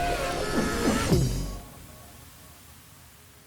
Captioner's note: bouncy electronic music; yelling